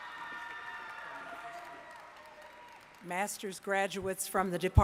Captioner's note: applause